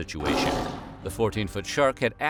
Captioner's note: roars